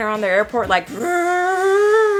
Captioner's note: lips buzz